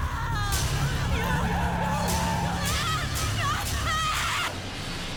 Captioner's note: tires screeching